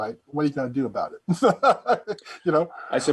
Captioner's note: chuckling